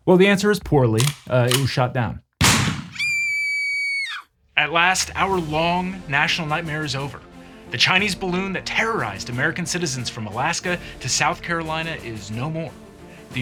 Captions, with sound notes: Well, the answer is poorly. It was shot down. (gun fires) (child screams) At last, our long national nightmare is over. The Chinese balloon that terrorized American citizens from Alaska to South Carolina is no more.